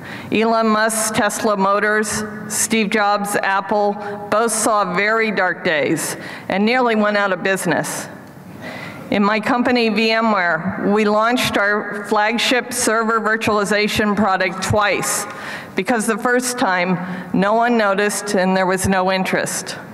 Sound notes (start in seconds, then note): none